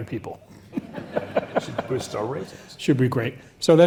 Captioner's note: laugh